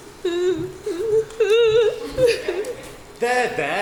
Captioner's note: sobbing